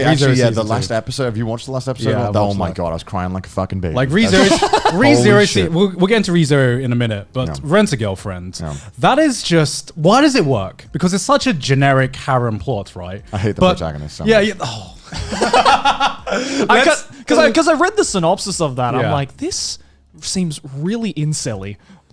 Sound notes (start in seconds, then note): 4.2 laughs; 15.0 laughing